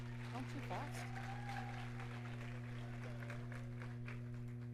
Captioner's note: audience cheering